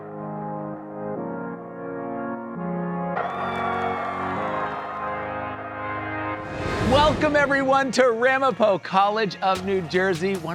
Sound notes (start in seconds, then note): 3.1 students cheering